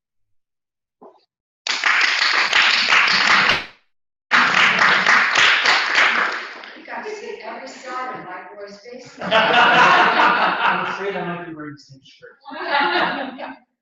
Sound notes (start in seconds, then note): 1.6 applause; 8.9 laugh